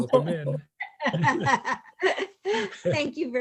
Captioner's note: laughter